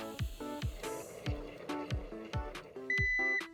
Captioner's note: eggs boiling away nicely 🥚